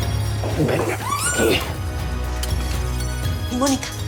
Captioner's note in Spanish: Gritos